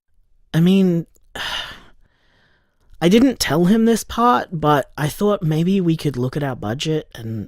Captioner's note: sigh